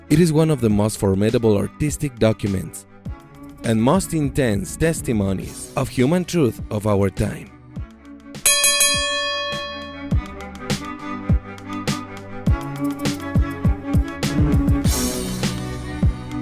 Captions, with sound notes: It is one of the most formidable artistic documents and most intense testimonies on human truth of our time. (ringside bells chime)